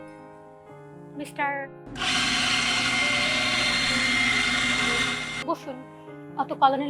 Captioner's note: sound of an espresso machine